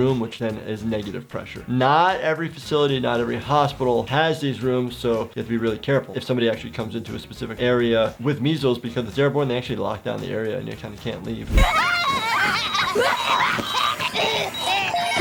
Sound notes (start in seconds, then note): 11.6 Gumball and Darwin cackling; 13.5 Gumball and Darwin coughing; 15.0 children laughing